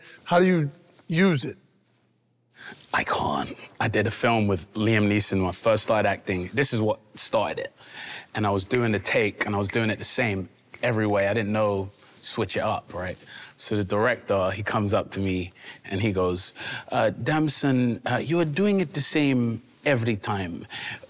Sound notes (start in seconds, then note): 8.9 snapping repeatedly